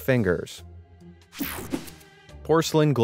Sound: transition zapping

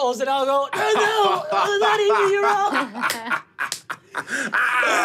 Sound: laughing

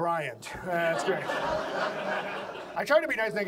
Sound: audience laughs

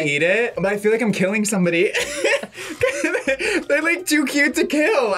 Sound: laughs

